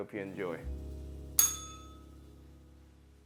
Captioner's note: bell rings